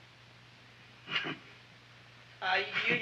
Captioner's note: Wilbur chuckles